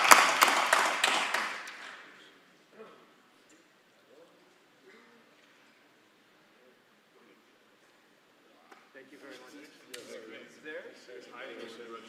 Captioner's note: applause